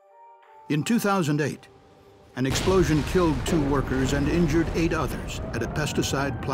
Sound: sound of explosion

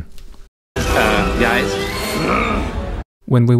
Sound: grunt

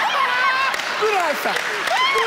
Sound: laughs

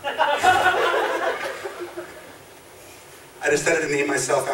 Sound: audience laughs

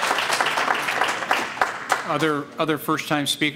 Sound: applause

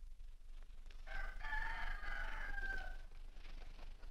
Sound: rooster Crows

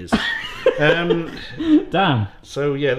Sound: laughing

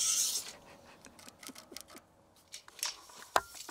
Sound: chuckles

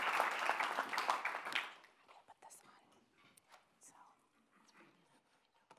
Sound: speaking off microphone

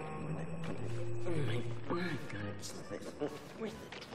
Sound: mumbling

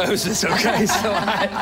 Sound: laughter

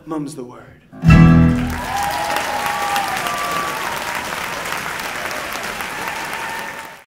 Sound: audience applauding and cheering

